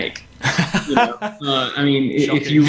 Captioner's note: laughs